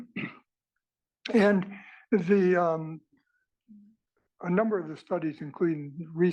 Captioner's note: cough